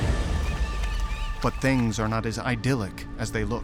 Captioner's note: birds twittering